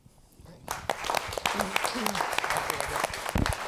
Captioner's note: applause